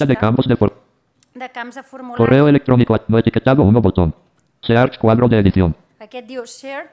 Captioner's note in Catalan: veu robòtica